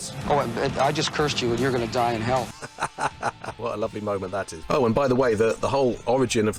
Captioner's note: laughs